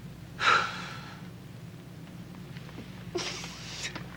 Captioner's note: Casey sighs